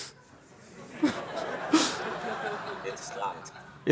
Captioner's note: laughter